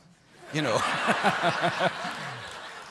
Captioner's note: laughter